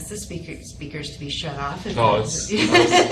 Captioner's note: laughs